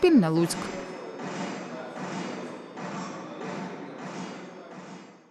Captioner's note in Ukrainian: Звуки пострілів